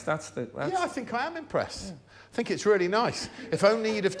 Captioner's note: laughter